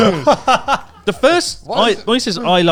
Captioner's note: laughing